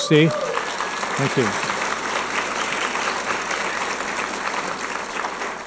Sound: audience applauding

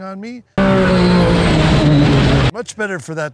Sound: engine Revving

